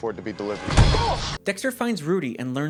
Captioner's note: pow!